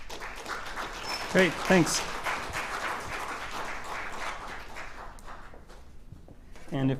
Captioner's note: applause